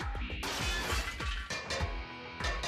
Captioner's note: metallic clanging